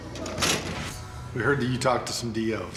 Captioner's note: door slamming